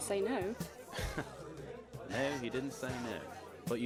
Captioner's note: Sirius lets out a dry laugh